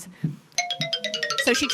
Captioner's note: ringing tone